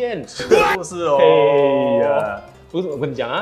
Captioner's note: Laugh